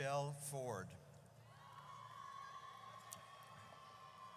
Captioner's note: audience cheers